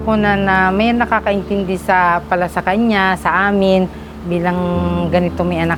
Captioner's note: speaking foreign language